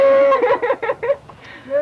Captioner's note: laughter